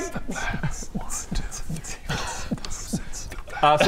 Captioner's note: mm-tsh beatboxing